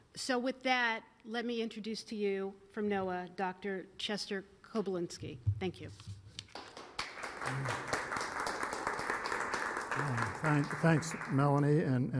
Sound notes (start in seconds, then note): 6.5 applause